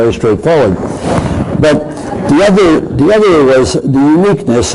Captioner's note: crowd laughing